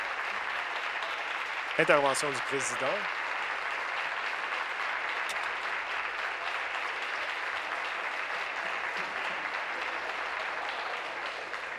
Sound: applause

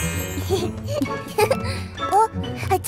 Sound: giggling

